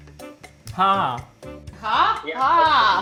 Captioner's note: speaking in Hindi